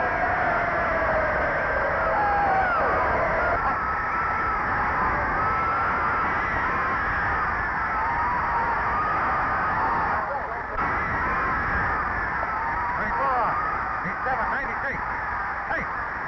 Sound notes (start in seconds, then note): 3.0 crowd cheering